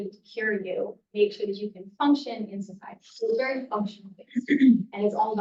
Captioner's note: throat clearing